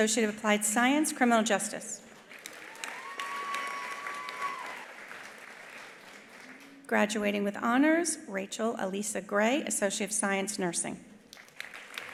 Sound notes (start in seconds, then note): 2.1 attendees applauding; 2.4 attendees cheering